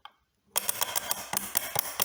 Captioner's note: coarse ratchet clicks